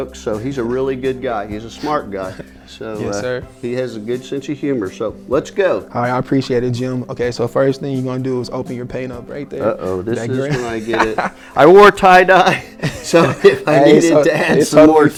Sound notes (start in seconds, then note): 10.2 laughing; 12.5 chuckling